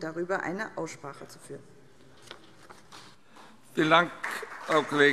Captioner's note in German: Beifall SPD